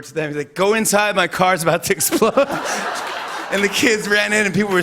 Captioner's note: laughter